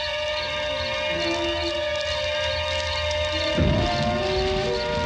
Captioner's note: fire crackling